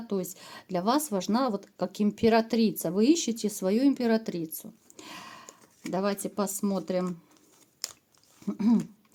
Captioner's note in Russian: откашливается